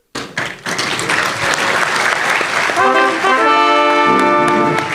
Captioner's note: applause